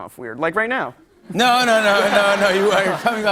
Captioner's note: laughter